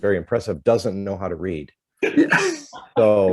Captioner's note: laughter